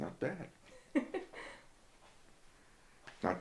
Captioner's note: giggles